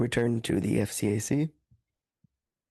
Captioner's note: speaking French